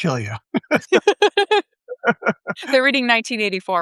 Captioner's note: all laughing